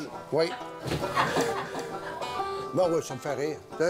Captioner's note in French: rires